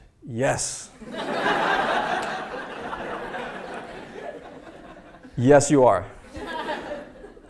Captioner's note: laugh